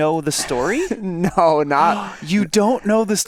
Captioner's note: chuckles